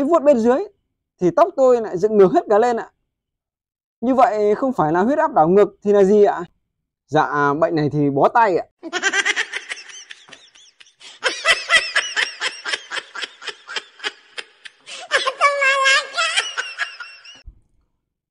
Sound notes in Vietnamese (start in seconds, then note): 8.8 Tiếng cười